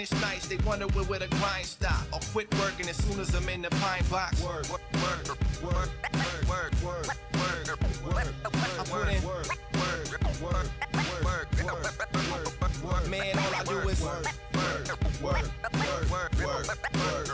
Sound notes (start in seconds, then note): 3.8 scratches